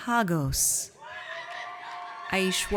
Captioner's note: audience cheers